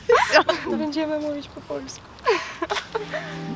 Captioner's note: speaks Polish